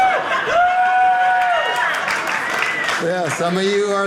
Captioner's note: audience laughing; audience cheering